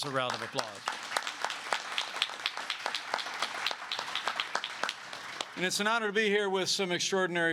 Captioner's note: applause